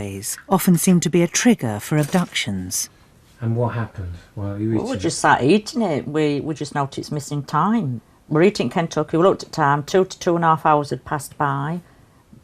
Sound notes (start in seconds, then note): 3.5 voiceover